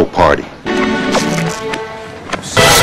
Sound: !pop

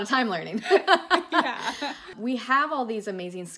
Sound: both laugh

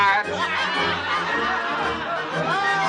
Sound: all laughing

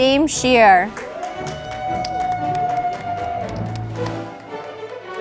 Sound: audience applauding

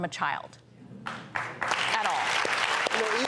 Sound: audience applauding

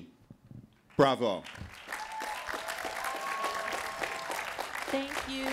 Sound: cheering

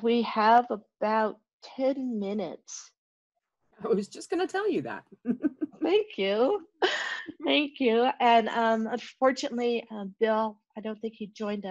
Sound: chuckling

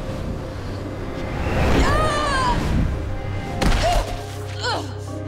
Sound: grunting, thudding

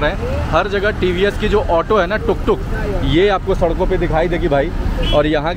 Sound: tuk- Tuk

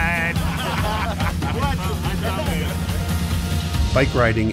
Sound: exuberant group laughter

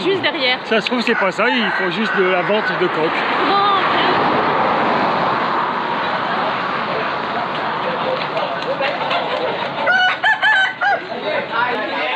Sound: applause

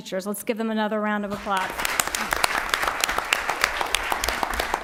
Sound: applause

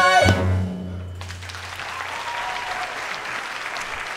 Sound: audience applauding

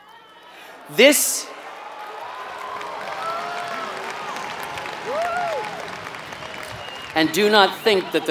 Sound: applause

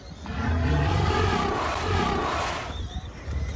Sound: dinosaur roars

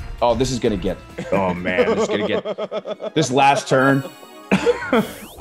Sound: laugh

